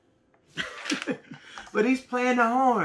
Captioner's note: laughs